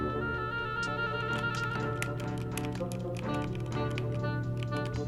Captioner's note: keys clacking